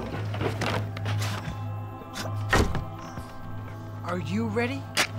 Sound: items crashing

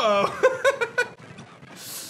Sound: chuckles

